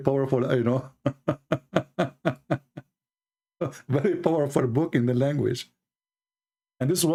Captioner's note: Ketawa